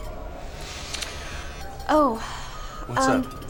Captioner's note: phone vibrating